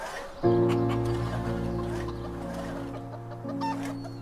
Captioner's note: chicken clucking